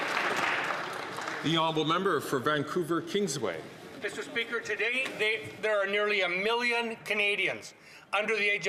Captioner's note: some Applause